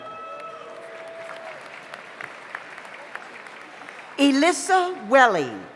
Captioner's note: audience cheers; audience applauds